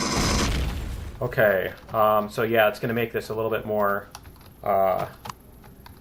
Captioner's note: pulse rifle firing; explosion; jetpack clicks